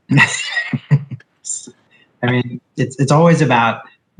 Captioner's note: laughing